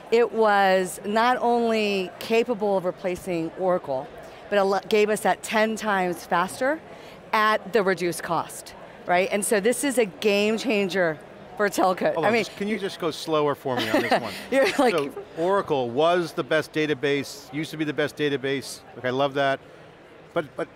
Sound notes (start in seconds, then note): 13.8 laughing